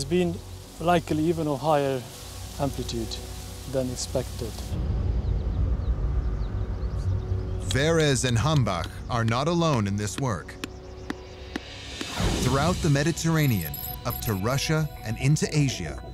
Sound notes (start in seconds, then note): 4.6 ominous music; 11.0 soft thuds